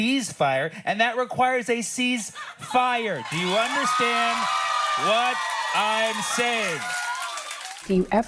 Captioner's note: cheering